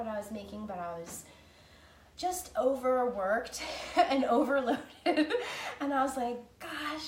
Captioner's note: laughing